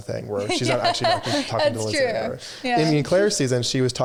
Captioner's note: laughing